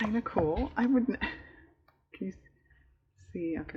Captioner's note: laughs